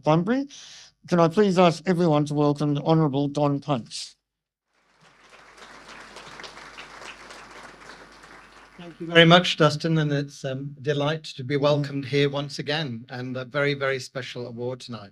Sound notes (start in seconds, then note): 4.8 audience applause